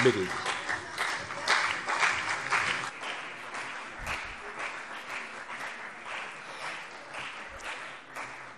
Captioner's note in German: Beifall CDU und vereinzelt BÜNDNIS 90/DIE GRÜNEN